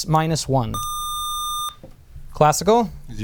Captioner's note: buzzer